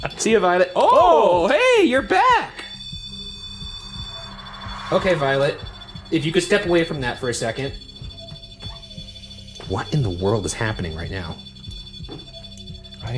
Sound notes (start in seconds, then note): 1.1 continuous beeping; 3.1 continuous beeping; 7.8 continuous beeping; 11.5 continuous beeping